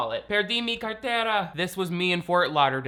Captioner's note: speaks Spanish